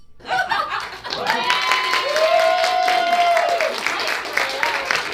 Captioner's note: audience laughs; audience cheers